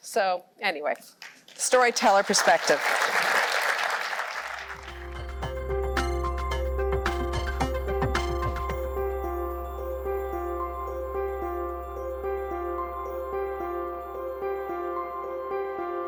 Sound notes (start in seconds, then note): 2.8 applause